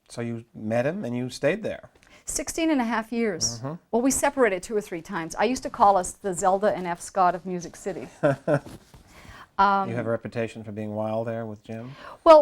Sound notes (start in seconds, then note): 8.2 chuckles